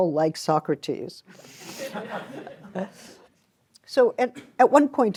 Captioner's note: laughter